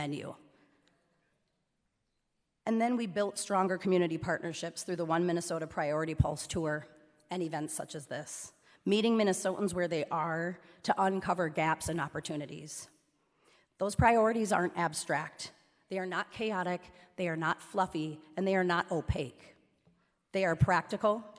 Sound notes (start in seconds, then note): none